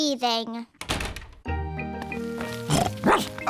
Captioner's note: door shuts; snorts; barks